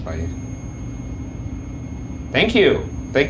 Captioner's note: REM-Pod beeping